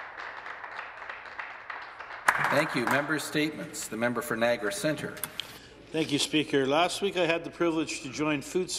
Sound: some Applause

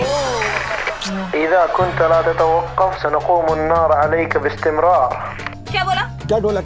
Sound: Arabic

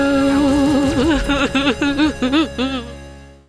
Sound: sad sounds

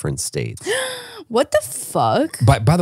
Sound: gasps

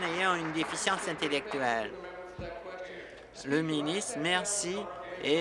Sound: applause

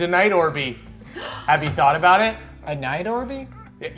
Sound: gasps

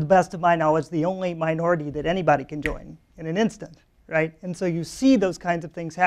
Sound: snaps fingers

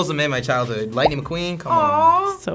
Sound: graphic popping

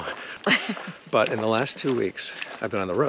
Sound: laughing amusingly

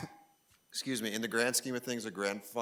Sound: coughs

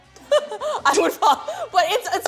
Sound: laughs

